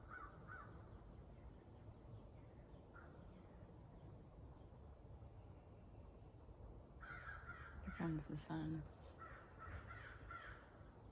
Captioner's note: birds chirping